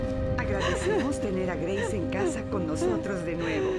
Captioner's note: crying